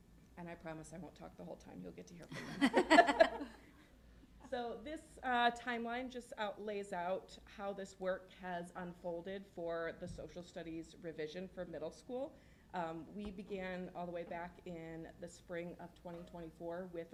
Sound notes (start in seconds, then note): 2.3 laughter